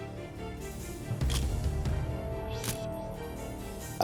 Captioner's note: camera shutter click